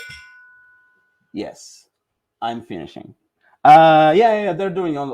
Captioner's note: bell ringing